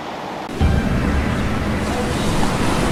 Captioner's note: waves crashing